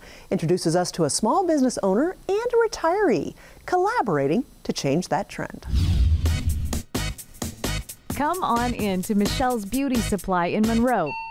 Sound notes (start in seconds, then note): 5.6 air whooshing; 6.6 upbeat music